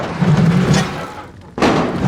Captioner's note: gunfire